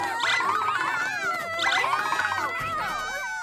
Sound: screaming continues

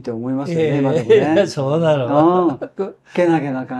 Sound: laughs

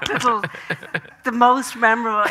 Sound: Graham laughing

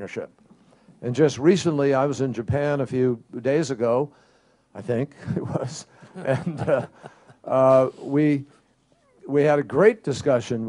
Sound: laughter

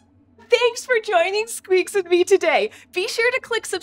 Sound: squeaks squeaks

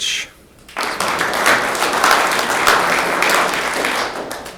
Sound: room applauds

